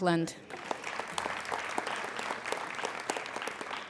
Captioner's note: applauding